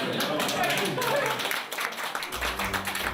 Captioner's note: all laughing and applauding